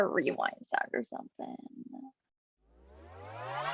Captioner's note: different rewind sound plays; rewind sound plays